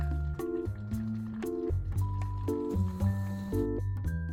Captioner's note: boiling~